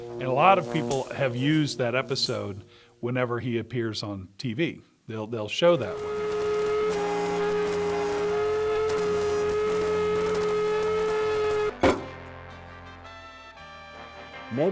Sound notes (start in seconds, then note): 5.8 blender whizzing; 12.5 bright classical music